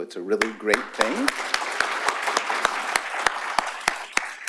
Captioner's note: applause